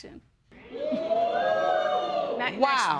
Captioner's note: audience react